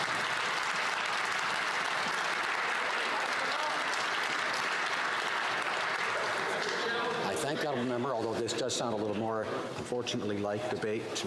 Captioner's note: some Applause